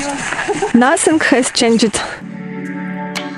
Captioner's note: laugh